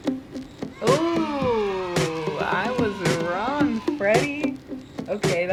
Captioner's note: upbeat music; kids cheering